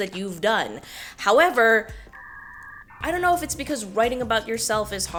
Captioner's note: static